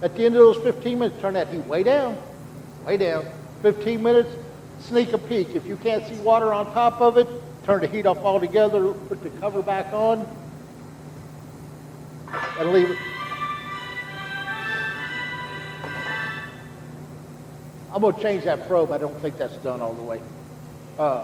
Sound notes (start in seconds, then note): 12.3 phone ringing